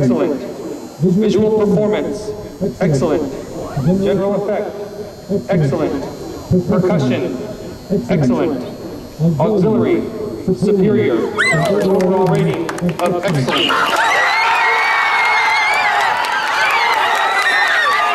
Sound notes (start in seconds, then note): 13.2 cheers and Applause